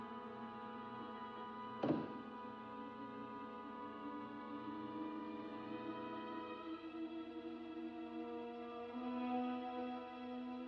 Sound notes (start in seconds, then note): 1.4 eerie music; 1.8 drawer bumps open; 8.6 suspenseful music